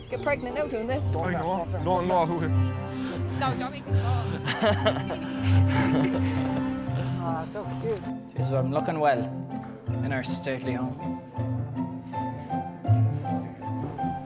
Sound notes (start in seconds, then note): 3.9 man chuckling; 11.4 cheerful music